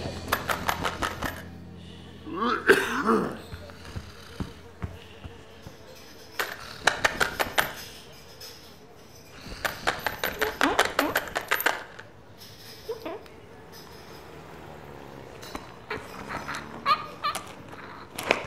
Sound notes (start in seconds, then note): 0.2 coins chinking; 1.6 flies buzzing; 2.2 coughs; 6.2 coins chinking; 9.5 coins chinking